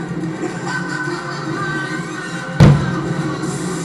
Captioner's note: evil laughter